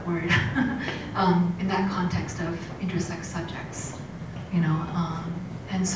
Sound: laugh

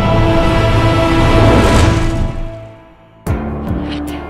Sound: fire blazing; somber music

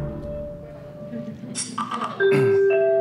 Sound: knocking

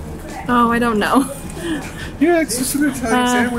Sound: laughs

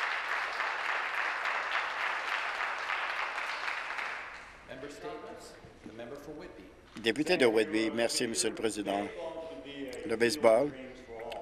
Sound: some applause

